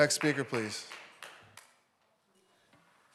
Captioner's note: audience Applauding